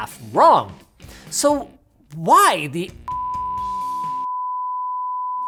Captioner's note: beep